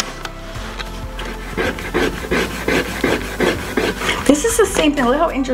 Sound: eraser rubbing

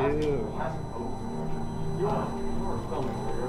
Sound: static Noise

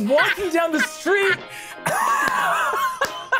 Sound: players laughing

